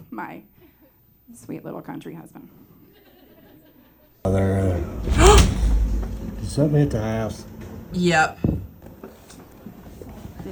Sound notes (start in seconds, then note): 4.3 gasps; 5.0 sound of tree hitting house